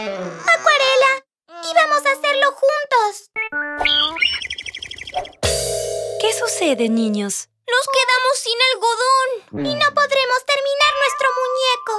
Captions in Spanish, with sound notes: Acuarella, íbamos a hacerlo juntos. (Sonido de pájaros) ¿Qué sucede niños? Nos quedamos sin algodón Y no podremos terminar nuestro muñeco